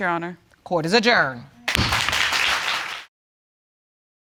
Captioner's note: audience clapping